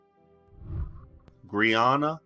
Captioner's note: whooshing